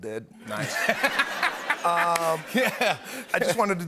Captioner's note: laughter